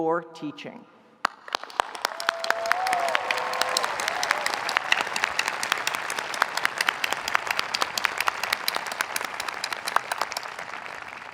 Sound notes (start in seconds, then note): 1.2 audience applauding; 1.3 audience cheering